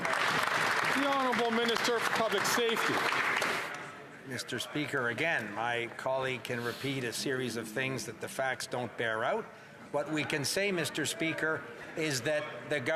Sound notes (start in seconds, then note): 4.6 some Applause